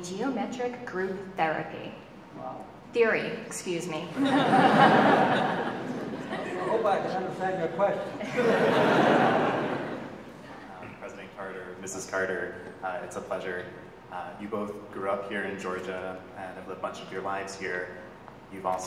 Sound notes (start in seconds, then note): 4.1 audience laughing